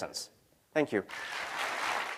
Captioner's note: cheering